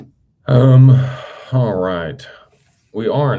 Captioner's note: sighs and gasps